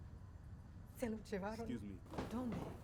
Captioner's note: speaking spanish